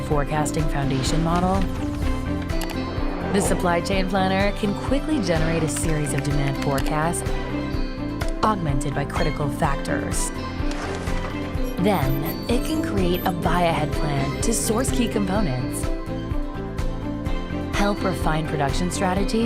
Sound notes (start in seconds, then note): 11.5 series of electronic tones